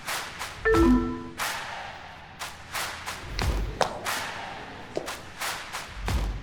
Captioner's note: electronics beep; rhythmic music; electronics beep